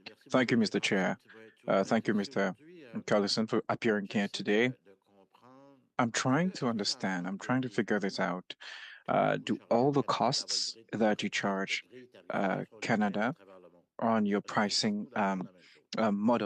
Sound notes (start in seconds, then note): 3.3 speaking French